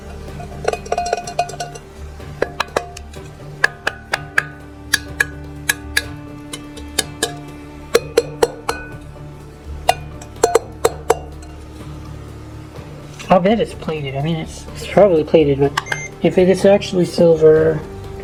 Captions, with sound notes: (Tapping against the piece to hear pitch) I'll bet it's plated. I mean it's, it's probably plated, but if it's actually silver...